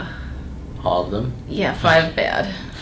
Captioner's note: patient groaning